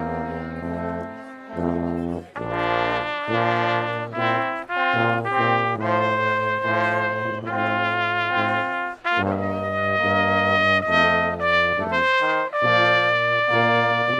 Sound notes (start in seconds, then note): none